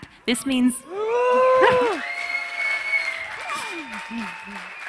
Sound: audience cheering

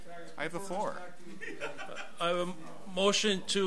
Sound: overlapping chattering

